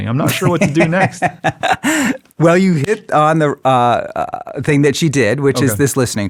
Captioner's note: laughs